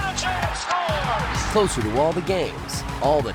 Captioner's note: crowd cheers; announcer commentating